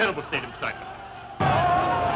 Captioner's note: boom